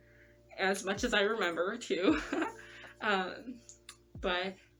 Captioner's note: nervous laugh